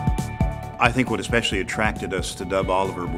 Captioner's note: voiceover